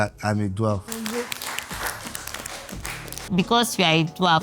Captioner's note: clapping